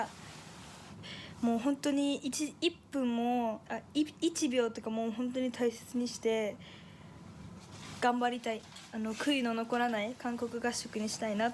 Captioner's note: speaking in foreign language